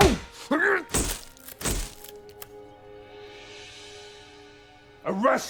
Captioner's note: smacking; flash popping